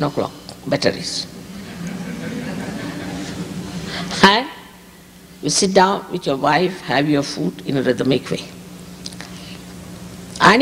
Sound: laughter

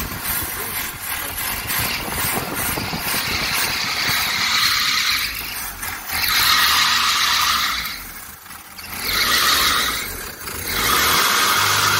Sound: belt squeals

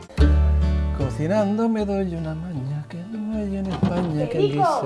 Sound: humming

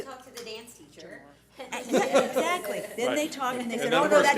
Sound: board laughs

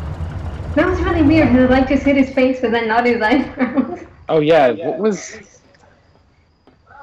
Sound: laughs

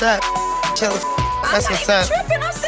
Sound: beep

